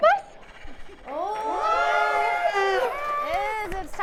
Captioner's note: audience cheering